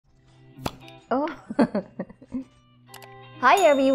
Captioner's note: chuckling